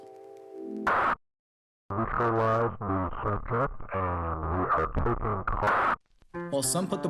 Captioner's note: police chatter